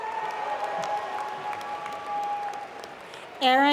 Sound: applause

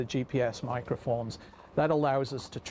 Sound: voiceover

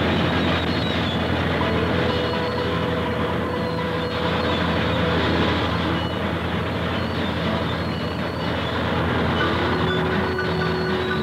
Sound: sounds of industry, faint music

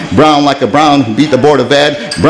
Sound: none

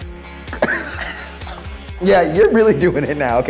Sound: coughing

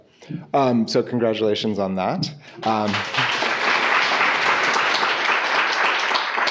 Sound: audience applauding

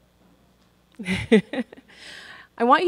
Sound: chuckles

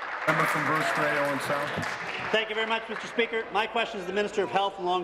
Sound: applause

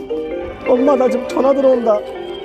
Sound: the seventh telephone bell

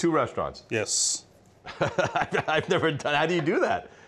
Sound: Ming laughs

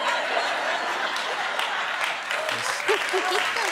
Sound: audience laughing

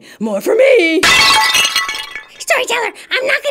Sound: crash!!!!

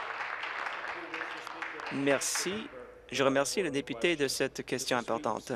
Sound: applause

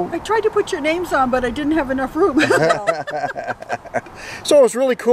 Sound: laughing

